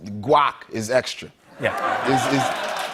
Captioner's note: laughter